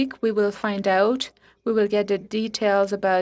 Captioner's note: speaking French